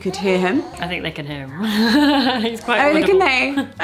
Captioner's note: laughs